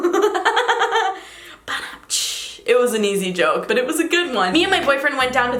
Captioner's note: laughs